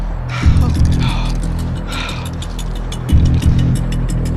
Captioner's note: panting